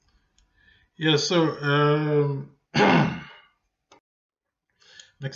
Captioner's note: clears throat